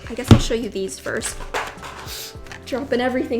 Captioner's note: loud thud